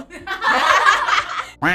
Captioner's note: everyone laughs